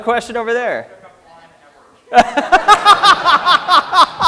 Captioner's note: laughter